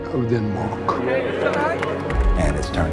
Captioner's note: indistinct background chatter